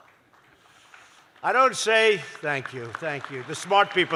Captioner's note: applause